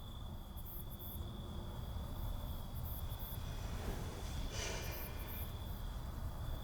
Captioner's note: Abby sighs; faint traffic noise